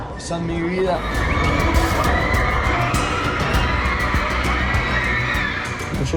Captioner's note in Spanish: chicas gritan